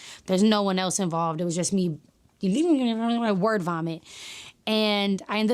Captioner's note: speaks in gibberish